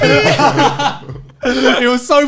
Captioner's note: laughing